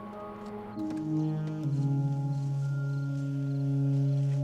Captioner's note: insects chirping